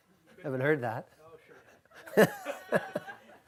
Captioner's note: voiceover; chuckles